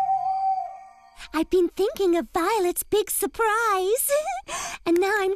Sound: giggles

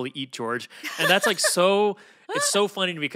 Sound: Felicia laughs; laughs

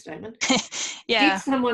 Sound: laughs

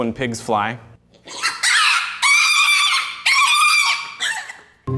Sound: pig squealing

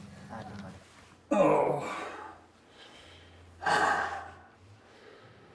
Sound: Josiah groaning

